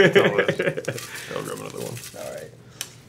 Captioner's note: laughs